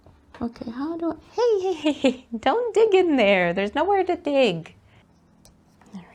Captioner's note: giggles